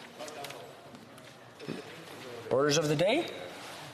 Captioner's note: speaking French